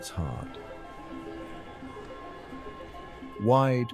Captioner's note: crowd chattering